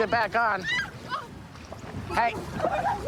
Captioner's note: screaming